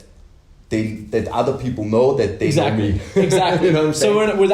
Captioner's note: laughs